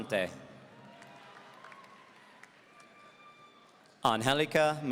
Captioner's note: audience cheering